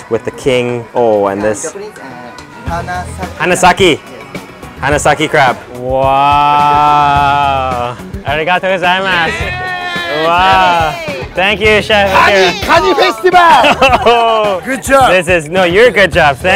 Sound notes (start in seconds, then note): 13.0 speaking Japanese